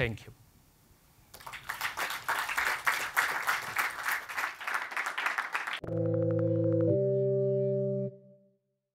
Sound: applause

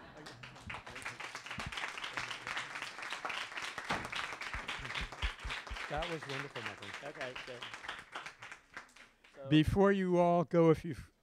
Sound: applause

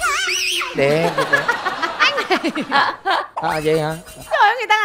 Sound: laughter

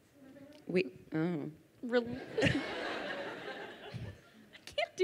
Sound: crowd laughing

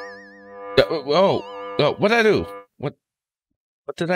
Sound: Purble Place sound

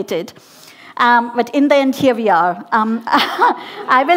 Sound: laughing

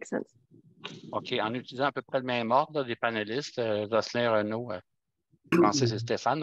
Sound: speaking foreign language

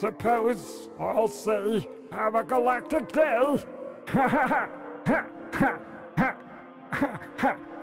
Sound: laughs in an alien way

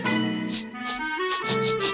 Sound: sniff sniff

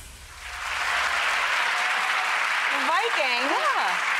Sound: applause

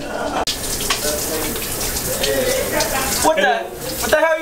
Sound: water running

